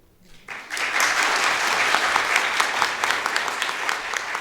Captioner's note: audience applauding